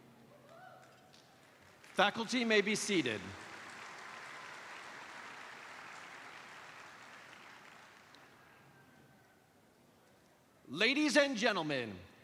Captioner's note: applause